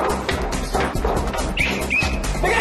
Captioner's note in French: whistle